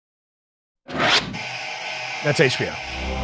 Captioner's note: dramatic music; air whooshing